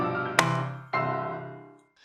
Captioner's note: gavel hammer